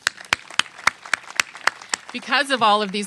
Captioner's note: applause